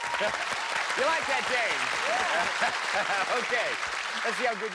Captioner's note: laughs